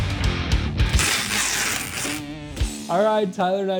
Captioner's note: tape gun noises